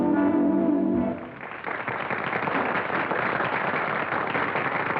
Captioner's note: applause